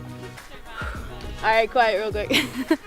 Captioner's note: woman murmurs